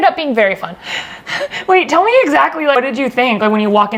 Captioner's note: giggles